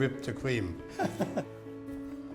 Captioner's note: laughs